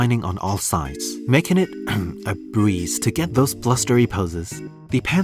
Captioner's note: cough